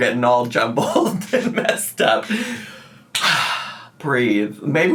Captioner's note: exhales